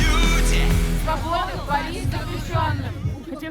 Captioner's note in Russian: Скандируют